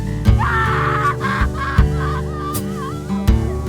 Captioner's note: sobs